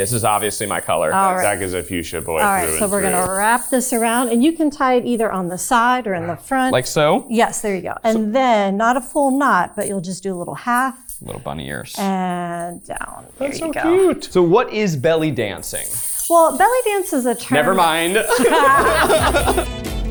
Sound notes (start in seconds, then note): 3.7 hip scarf jingling; 14.8 hip scarf jingling; 17.5 chuckling; 19.9 upbeat music